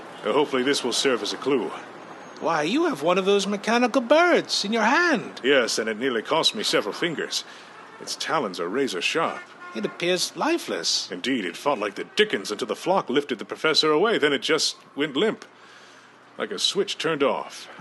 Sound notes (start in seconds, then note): none